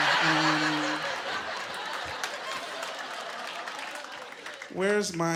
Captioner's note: laughing